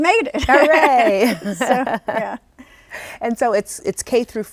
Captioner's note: laughs